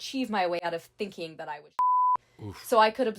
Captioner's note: beeping